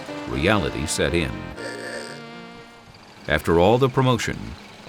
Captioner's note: car horn